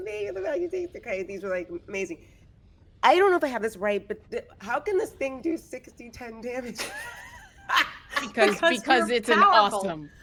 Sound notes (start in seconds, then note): 6.7 laughs